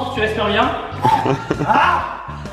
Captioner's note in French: rire